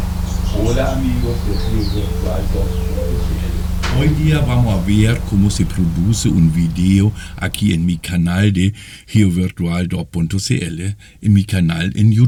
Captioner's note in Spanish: leyendo texto y cantos de pájaros